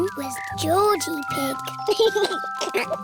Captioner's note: giggles